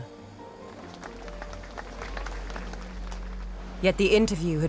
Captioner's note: audience applauds